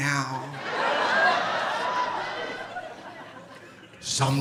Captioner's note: audience laughing